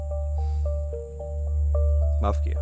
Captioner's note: Sighs